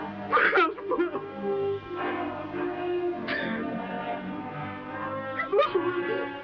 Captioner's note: sobbing